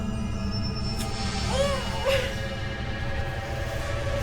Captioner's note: grunting